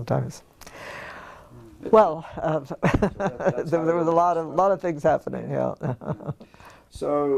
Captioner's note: laugh